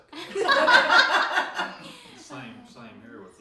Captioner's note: all laugh